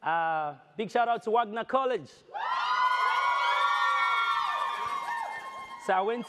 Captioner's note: audience cheers